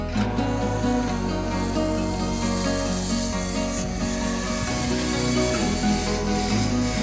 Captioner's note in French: bruit de scie à chaine électrique